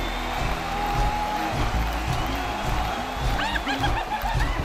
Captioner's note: aliens stomping, chanting